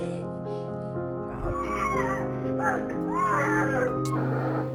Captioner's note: child crying